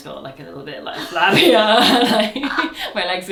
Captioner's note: both laugh